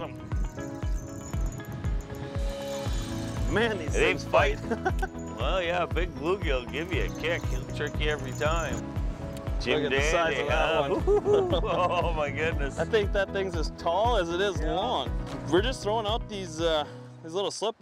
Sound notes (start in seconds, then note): 0.5 rod pulling and reeling in; 4.6 chuckles